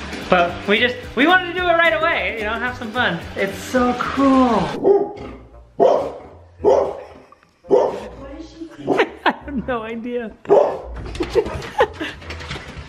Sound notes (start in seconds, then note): 5.0 Penny barking; 8.9 laughing